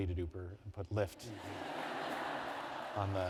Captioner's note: laughter